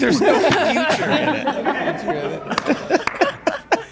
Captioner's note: group laughs